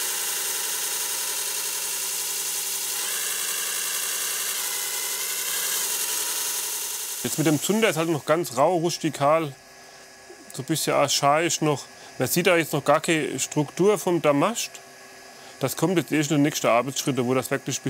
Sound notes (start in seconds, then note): 2.0 buzzing